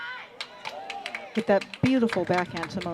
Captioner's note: applause